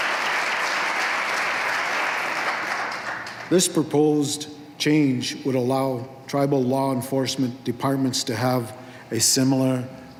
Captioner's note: applause